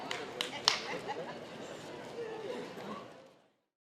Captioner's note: general chatter